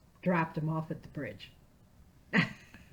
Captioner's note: laughing